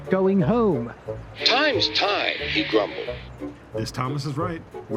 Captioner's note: through a voice box